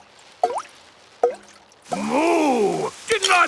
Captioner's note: water dripping